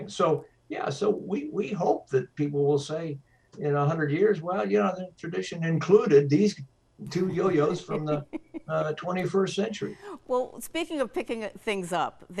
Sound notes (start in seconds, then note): 7.0 laughs